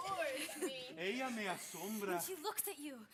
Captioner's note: speaking Spanish